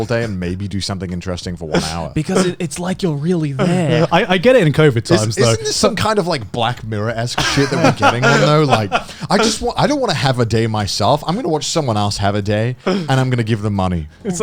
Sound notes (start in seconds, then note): 7.3 laughing